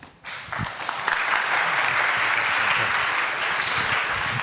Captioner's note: crowd applauds